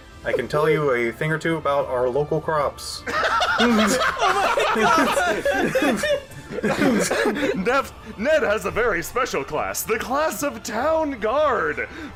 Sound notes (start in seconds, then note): 3.0 laughter